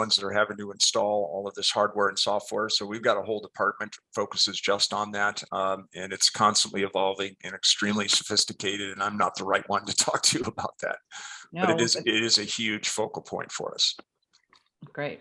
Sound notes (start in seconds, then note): 11.2 laughs